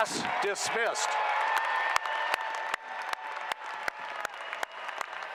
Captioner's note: applause